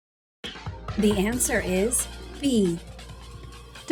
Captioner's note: female announcer speaking